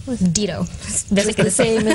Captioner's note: laughter